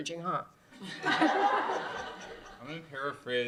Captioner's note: laughter